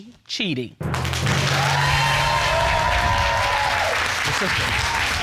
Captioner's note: audience cheering